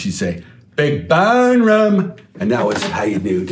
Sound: in perfect Pittsburghese

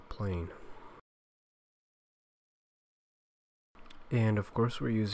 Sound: brief moment of silence

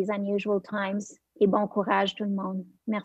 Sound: French

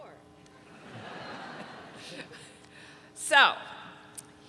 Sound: audience laughing

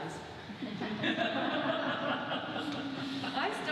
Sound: audience laughs

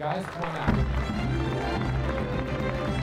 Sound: crowd clapping

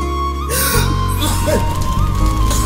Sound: coughing

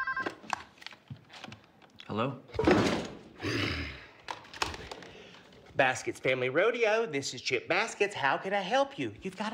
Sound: phone ringing

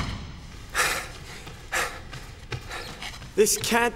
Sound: Sebastien kicks at door making it rattle; fleet footsteps echo; Sebastien pants

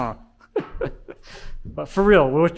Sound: laughing

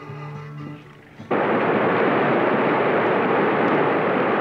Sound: water roaring

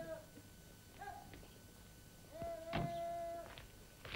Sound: drill sergeant shouting orders

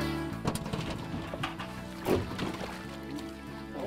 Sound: water splashing

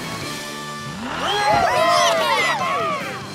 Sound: cheering

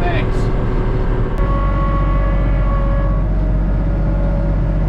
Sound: tractor whirring; tractor humming

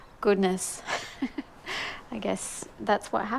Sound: laughing

